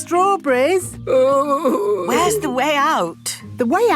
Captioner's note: groaning